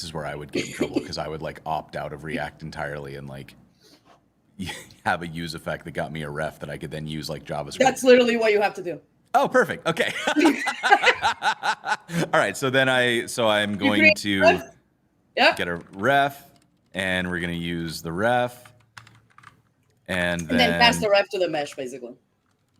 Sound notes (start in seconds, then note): 10.0 laughter